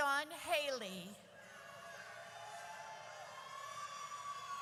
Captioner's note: audience cheers